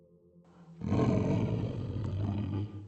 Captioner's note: growl